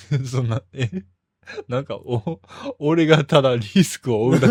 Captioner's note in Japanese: 笑い